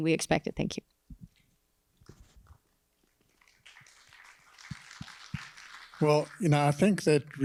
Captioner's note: applause